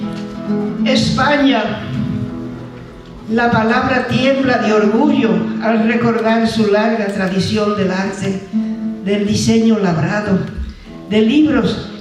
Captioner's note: speaking spanish